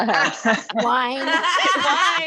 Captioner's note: laughter